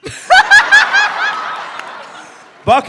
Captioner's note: sudden laughter